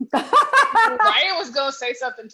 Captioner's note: laughs